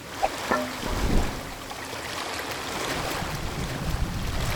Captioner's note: water sloshing